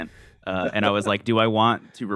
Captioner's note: laughs